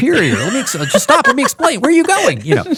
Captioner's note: laughing